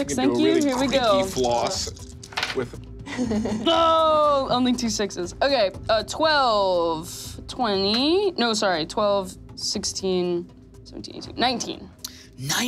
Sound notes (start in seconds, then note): 2.0 dice clattering